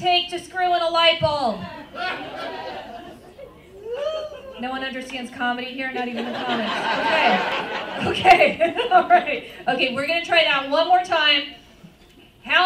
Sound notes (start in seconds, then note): 1.6 laughter; 5.9 laughter